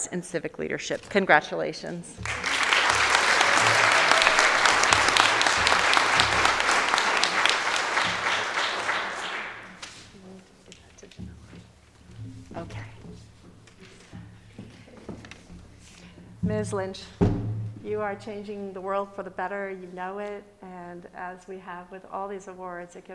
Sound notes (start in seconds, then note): 2.1 audience applauding